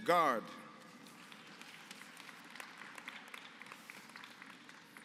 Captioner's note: applause